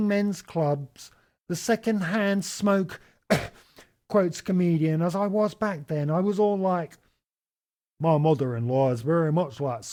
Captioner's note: cough